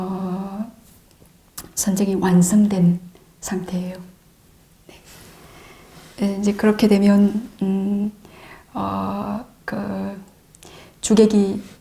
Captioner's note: breath